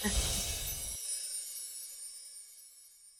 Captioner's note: chiming